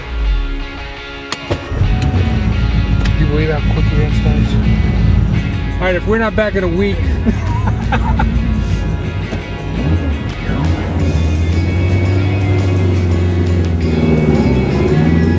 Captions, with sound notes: (upbeat music) - Can you believe how quickly that starts? All right if we're not back at a week. (laughing) (engine revving)